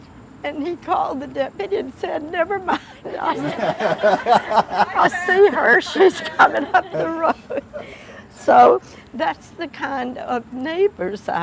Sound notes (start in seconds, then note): 2.5 laughing; 7.2 more laughter